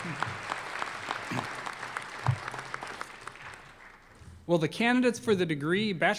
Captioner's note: applause